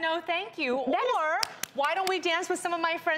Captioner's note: clapping